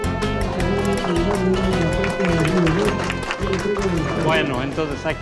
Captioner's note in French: applaudissements